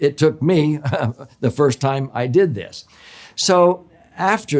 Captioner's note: laughs